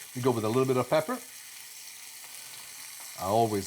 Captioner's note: sizzling